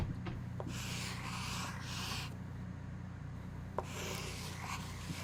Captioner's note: pencil scratches